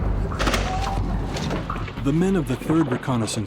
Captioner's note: explosion and yelling; gunfire; voiceover